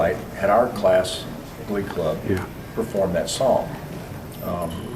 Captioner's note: none